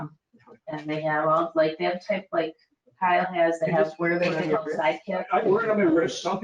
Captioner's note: speaking faintly